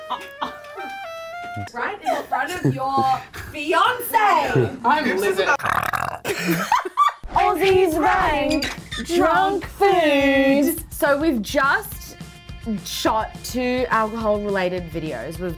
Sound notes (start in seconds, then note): 5.5 burps; 5.5 laughing